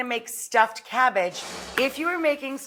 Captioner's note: note swooshes